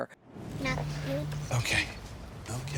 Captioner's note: air whooshing